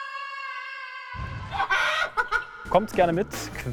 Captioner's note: long scream; eerie laughter